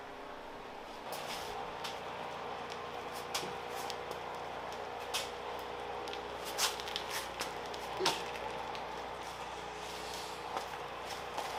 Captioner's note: working sound